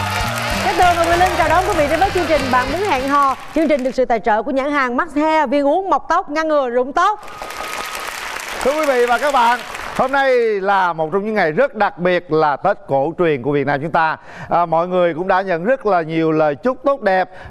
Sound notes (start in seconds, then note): 7.2 audience applause